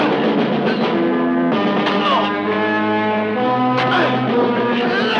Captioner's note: villager screams